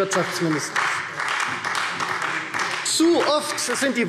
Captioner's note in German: Beifall Freie Demokraten und vereinzelt SPD